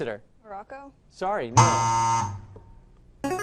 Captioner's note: wrong answer buzzer; answer bell